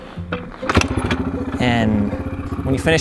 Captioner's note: motor revs